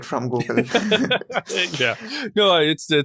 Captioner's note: laughs